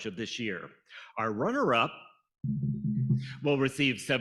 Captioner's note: fingers tapping